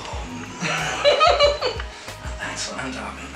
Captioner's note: giggling